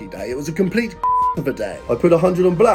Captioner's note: beep